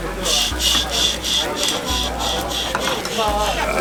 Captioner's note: imitates sound of pan scraping